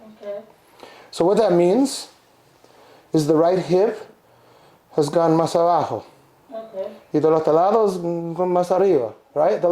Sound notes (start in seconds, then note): 4.7 speaks in a foreign language